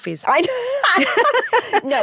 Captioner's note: both laugh